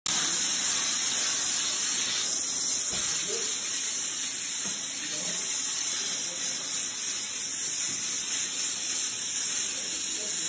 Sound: grout cleaning tool hissing

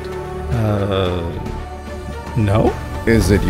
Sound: hesitant

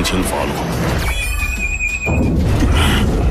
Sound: flight encountering strong turbulence

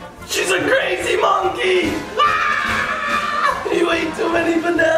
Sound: screams

